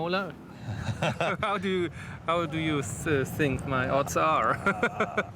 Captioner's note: chuckles